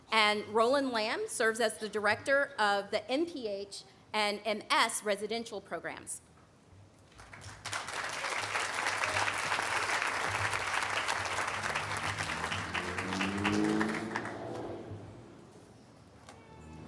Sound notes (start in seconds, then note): 7.2 audience applauding